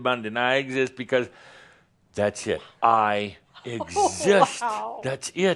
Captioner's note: she gasps again